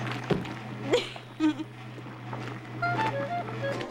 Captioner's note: machine churning